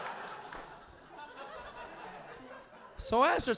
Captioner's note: audience laughing